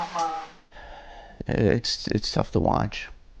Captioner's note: sighs